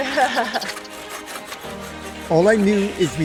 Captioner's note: companion laughs; saw hissing